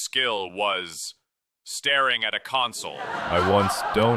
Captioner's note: audience laughter